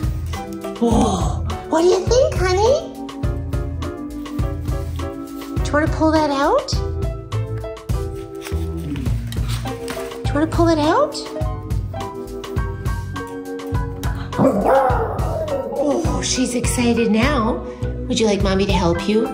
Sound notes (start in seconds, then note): 14.3 dog howling